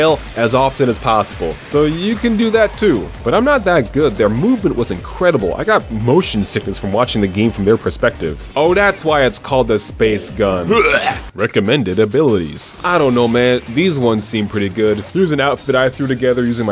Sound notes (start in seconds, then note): 10.6 vomits